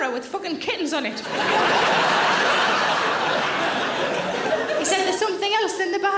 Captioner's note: audience laughing